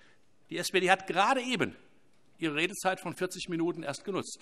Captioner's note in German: none